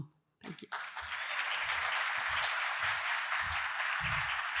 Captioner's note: applause